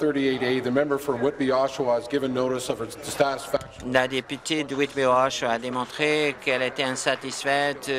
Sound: speaking in French

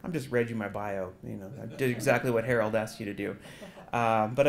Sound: laugh

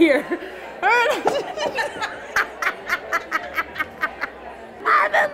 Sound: laughs

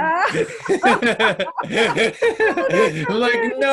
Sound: laughing

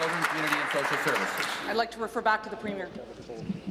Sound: applause

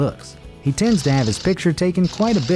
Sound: camera shutters

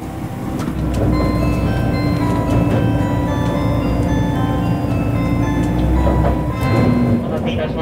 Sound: The chime inside the JR Shikoku train is ringing

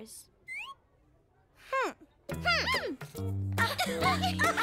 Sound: snickering

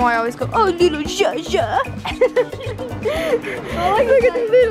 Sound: laughing; laughs

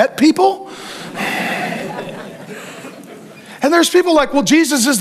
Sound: congregation laughing

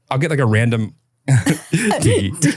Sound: both laughing

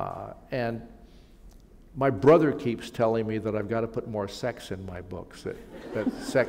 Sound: laughter

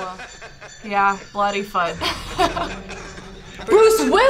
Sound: laughs

